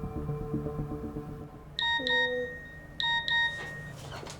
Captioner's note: phone beeps